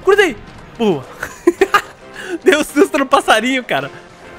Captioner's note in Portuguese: risos